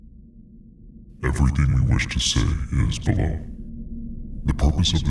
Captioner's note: voiceover